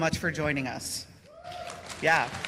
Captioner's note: cheers and applause